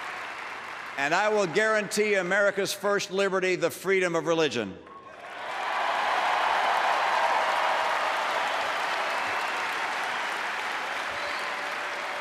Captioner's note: applause